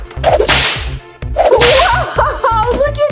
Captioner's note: door whips